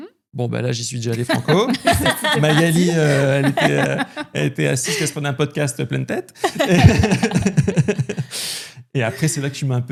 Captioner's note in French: rires